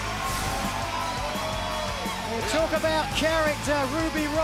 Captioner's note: cheers and applause